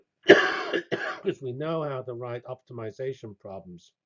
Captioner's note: cough